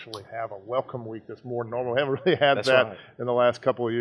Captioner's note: laughs